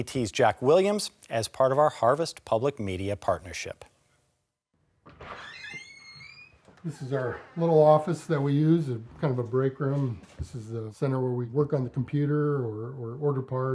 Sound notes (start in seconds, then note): 5.0 door creaking open